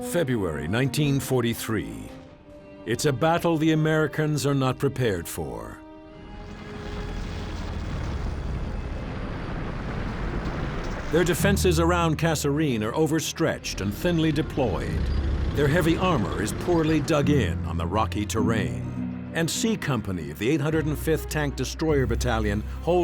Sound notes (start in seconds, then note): 6.4 tank engine roaring